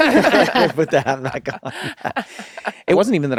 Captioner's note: laughter